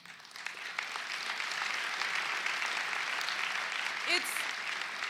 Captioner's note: applause